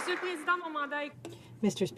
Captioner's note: some Applause